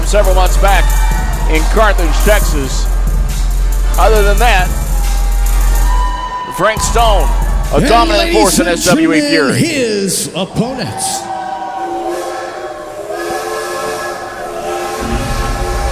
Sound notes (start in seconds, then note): 11.2 train whistle blows; 11.6 crowd cheers and jeers